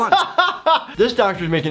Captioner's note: laughing